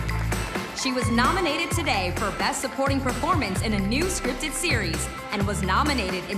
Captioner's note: cheers and applause